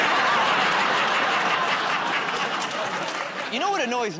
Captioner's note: laughter